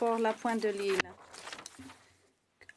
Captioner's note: speaking French